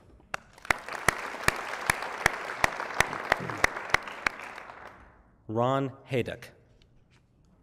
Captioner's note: applause